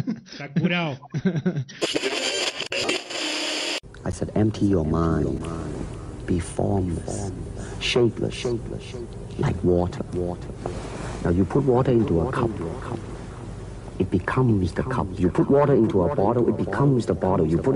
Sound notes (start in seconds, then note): 1.8 ruido de sintonía